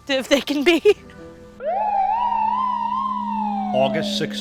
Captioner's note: police sirens